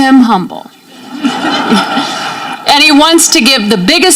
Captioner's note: audience laughing